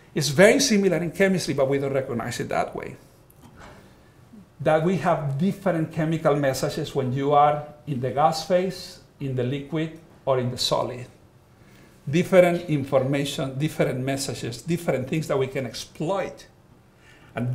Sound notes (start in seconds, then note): none